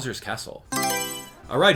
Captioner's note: Mario Selection Sound